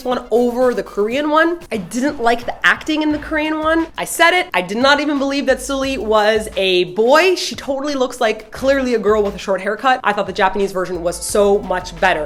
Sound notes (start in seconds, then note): none